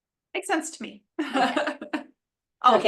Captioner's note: laughs